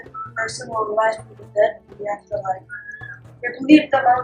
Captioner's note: whistling